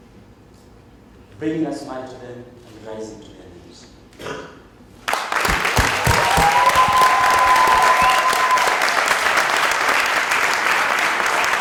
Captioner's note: cheers and Applause